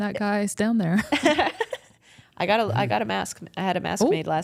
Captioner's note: laughs